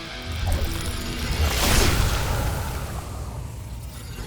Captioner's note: zapping